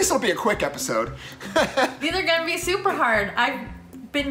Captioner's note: laughs